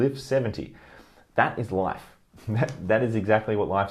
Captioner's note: laughs